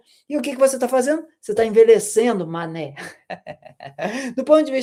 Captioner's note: laughter